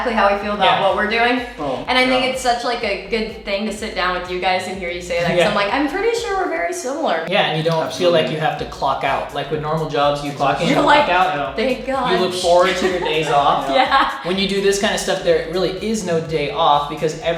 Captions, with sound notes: that's exactly how we feel - Yeah - about what we're doing - and I think it's a such like a good thing to sit down with you guys and hear you say - Yeah like something like I'm pretty sure we're very similar. - Yeah and you don't - Absolutely - feel like you have to clock out. Like with normal jobs you clock in clock out. - You're like thank God (laughing) - You look forward to your days off. - (laughing) Yeah - When you do this kind of stuff there really is no day off because